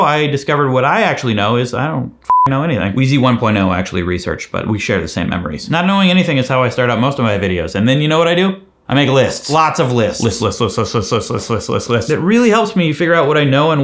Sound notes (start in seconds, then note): 2.2 beep